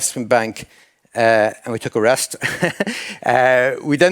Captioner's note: chuckles